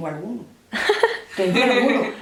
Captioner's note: laughs